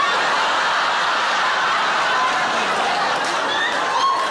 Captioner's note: audience laughing